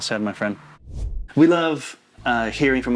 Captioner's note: air whooshing